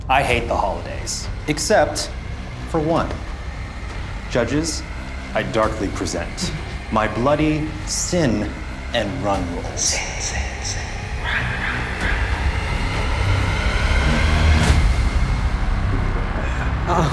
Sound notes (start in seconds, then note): 3.5 suspenseful, eerie music; 9.8 disembodied Voice; 12.9 suspenseful music intensifies